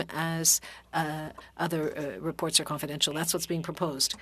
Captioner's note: speaking French